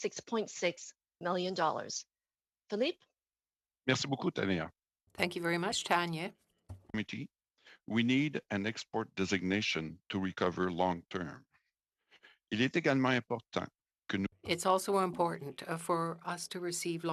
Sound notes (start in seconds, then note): 9.3 speaking French